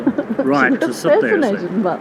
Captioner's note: chuckles